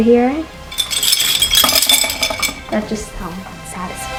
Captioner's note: medals hitting against each other